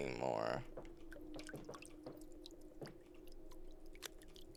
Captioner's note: water splashing